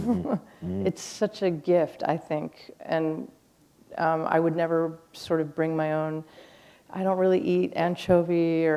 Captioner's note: chuckle